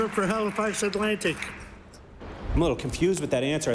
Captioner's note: applause